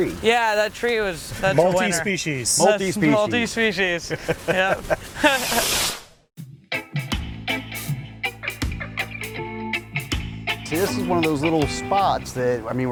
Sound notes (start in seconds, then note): 4.4 laughing